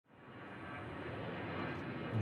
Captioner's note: plane engine roaring